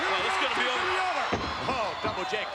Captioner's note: spectators cheering